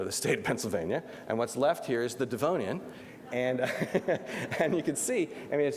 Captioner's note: laughs